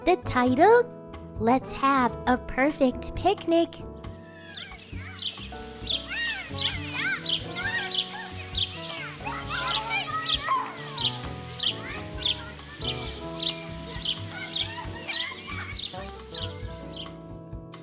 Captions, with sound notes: The title, "Let's Have a Perfect Picnic!" (birds tweeting) (kids shouting)